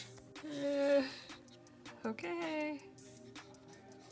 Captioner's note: groans uneasily